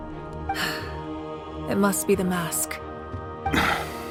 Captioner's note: sigh